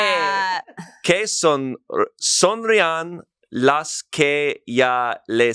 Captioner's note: speaks foreign language